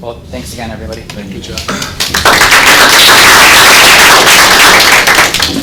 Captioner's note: audience applauds